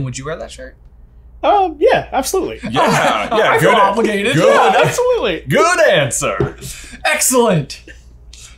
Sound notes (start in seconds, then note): 2.6 chuckles; 6.3 all laughing